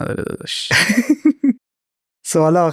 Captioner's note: laughs